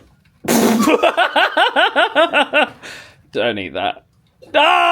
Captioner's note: laughs